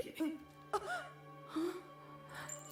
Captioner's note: gasps and winces